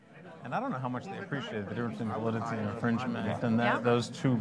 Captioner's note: chattering